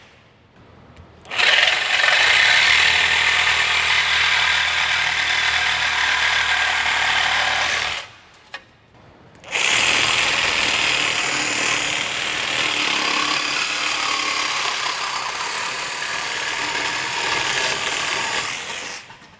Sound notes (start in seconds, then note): 1.2 cutter whirs; 9.7 cutter whirs